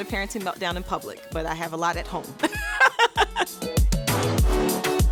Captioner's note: bright music; laughs